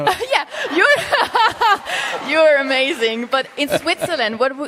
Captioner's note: laughter; laughs; Sadhguru laughs